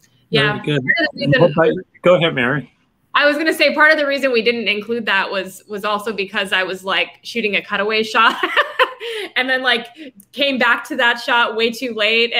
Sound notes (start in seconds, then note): 8.2 laughing